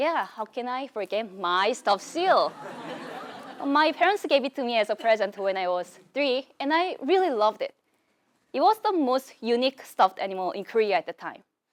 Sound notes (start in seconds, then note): 2.5 laugh